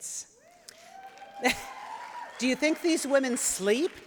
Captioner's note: cheering